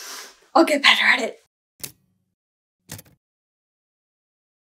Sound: typewriter key clicks

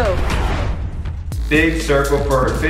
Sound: whooshing

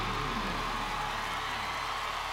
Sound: cheering; song ends

